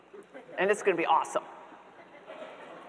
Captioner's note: audience members laughing